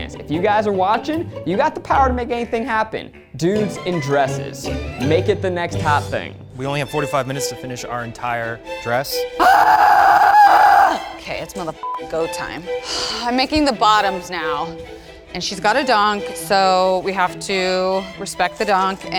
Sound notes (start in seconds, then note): 9.4 screams